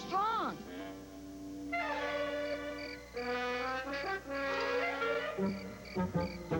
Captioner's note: crickets chirping